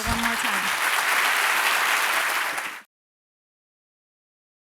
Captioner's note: applause